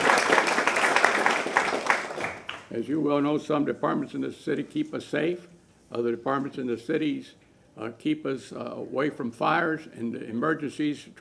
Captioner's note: applause